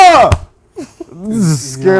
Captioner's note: screaming